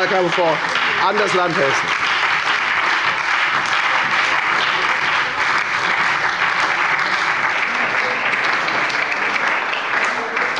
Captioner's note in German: Beifall bei der FDP, der SPD und der LINKEN